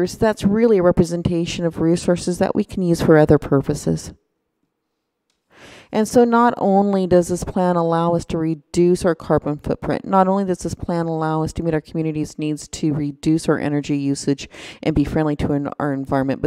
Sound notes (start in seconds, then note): none